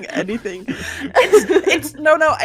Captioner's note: laughing